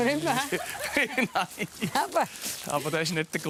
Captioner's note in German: Lachend